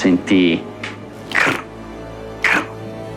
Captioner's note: crack, crack